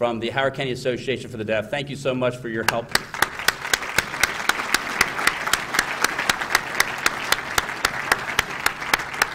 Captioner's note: applause